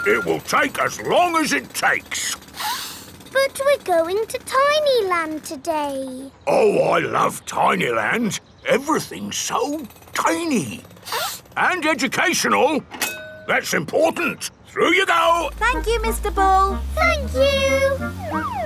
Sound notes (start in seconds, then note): 2.6 sniffs; 11.0 sniffs